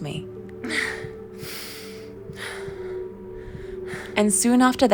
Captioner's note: labored breathing